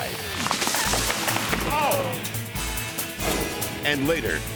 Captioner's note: branches snapping